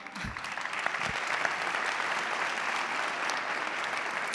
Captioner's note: audience clapping